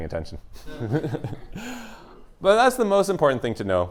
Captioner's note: laughs